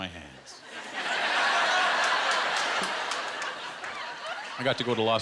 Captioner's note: laughter